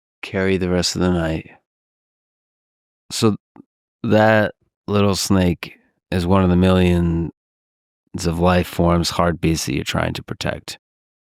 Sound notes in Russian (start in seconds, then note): none